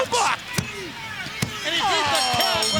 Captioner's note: hand smacking; bell dinging